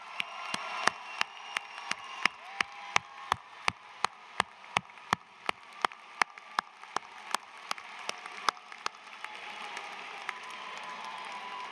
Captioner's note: cheers and applause